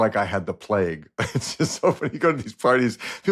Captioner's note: laughs